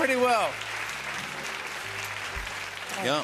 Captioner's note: applause